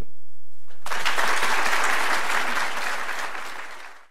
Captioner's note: applause